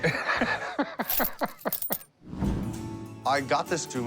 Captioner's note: laughs